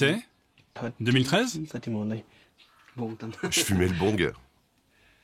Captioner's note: dzongkha spoken audio